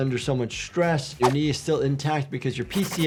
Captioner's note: audio whooshes